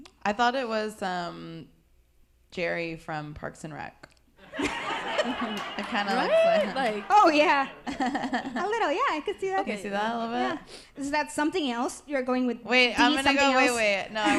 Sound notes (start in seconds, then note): 4.4 audience laughs